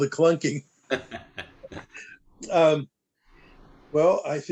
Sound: laughter

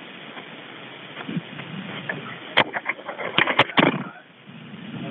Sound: recording hissing

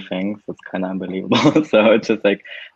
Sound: laughs

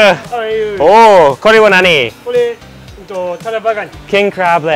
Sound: speaks in foreign language

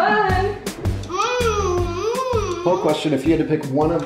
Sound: exclaims

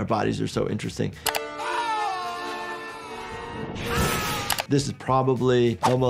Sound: shouting; screaming

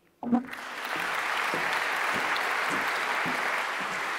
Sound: audience applauding

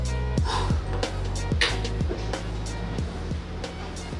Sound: breathing deeply; exhaling loudly

